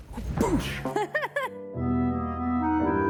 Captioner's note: laughing; eerie music